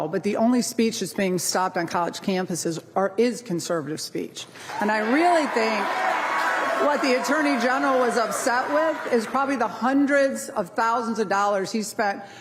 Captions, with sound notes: but the only speech is being stopped on college campuses is conservative speech. [applause] And I really think what the Attorney General is upset with, is probably the hundreds of thousands of dollars he's spent